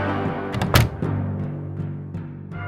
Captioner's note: door thuds; suspenseful music continues